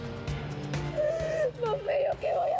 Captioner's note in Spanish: Sollozos